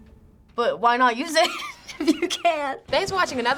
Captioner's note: giggling